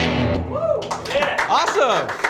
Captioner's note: applause